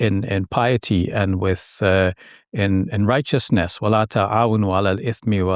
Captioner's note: speaking in foreign language